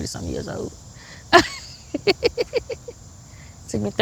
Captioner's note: laughs